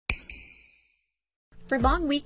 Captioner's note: snap